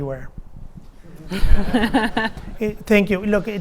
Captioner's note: audience laughing